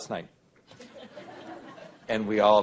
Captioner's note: laughter